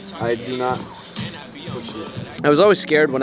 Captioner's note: speaks faintly